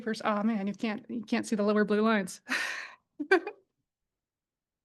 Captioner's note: chuckles